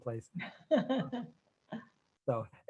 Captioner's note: laughing